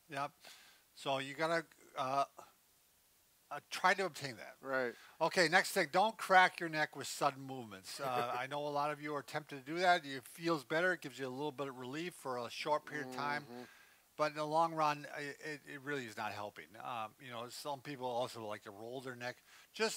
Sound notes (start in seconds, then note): 7.9 chuckling